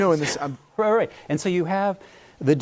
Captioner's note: laughter